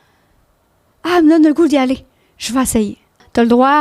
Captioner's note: in french